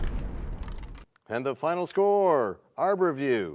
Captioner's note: crashing sound